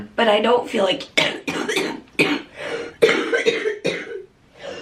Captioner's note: coughing